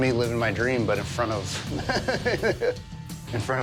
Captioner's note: laughs